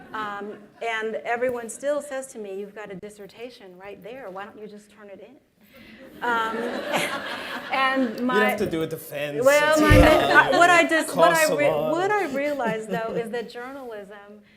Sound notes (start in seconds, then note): 6.2 laughter